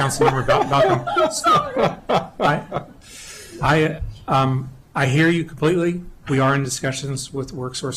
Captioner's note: laughter